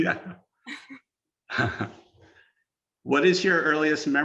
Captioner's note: laughs